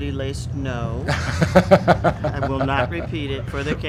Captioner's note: laughing